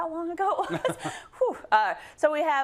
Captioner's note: laugh